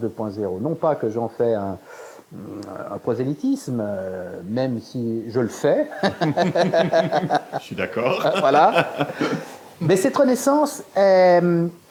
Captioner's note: laugh